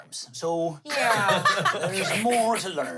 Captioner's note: everyone laughs